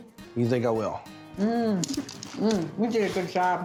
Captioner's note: crunchy sound